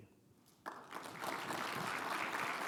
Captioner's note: audience applauds